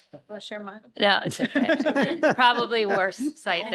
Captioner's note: laughter